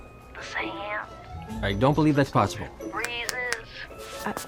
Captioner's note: snaps fingers